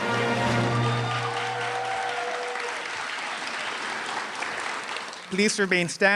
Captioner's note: applause